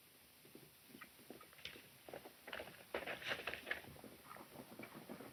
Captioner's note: horses galloping